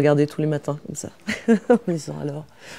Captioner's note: rires